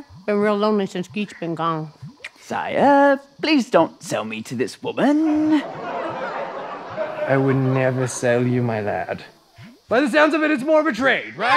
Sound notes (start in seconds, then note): 5.4 audience laughter